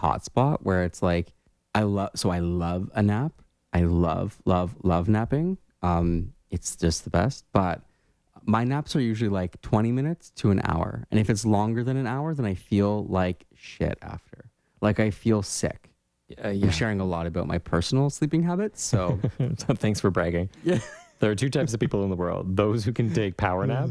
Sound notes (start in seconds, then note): 19.0 laugh